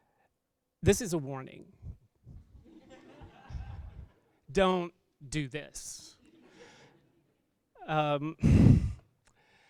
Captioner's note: laughter